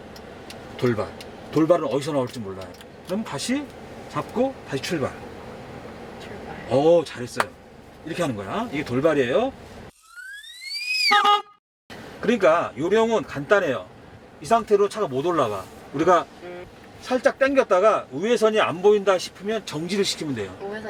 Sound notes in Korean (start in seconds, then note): 10.4 전동 휠체어 소리; 11.1 경적 소리